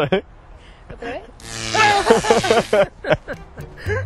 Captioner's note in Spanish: Gritos